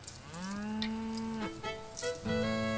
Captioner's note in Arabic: خرير البقرة; موسيقى هادئة